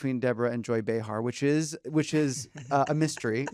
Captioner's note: laughs